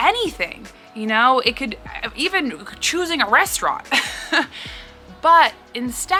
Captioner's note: laughs